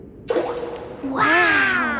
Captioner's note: rock plops